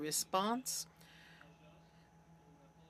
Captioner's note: speaking French